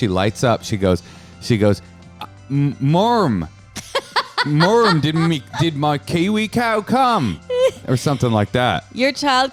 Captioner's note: Austrailian accent